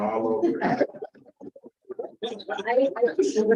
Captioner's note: laughter